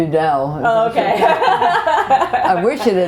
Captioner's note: laughter